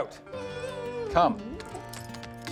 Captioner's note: Scout whines